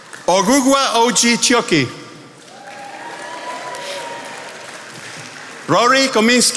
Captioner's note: attendees applauding